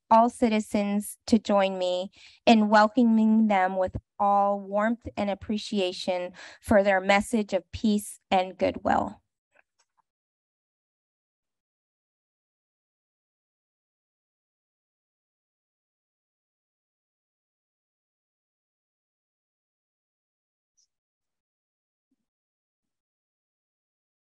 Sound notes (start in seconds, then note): 9.3 silence